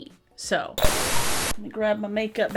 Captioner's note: hissing